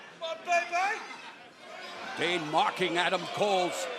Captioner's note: crowd chatter